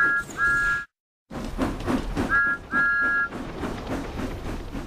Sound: chuffing and engines' whistle; chuffing and engines' whistle

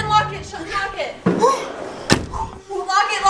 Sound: breathing heavily

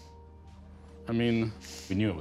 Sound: sniffles

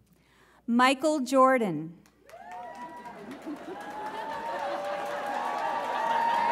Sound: audience chuckles

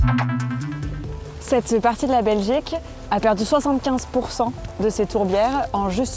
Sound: speaks in foreign language

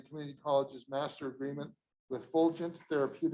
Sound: none

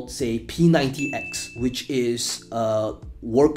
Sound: bell ringing

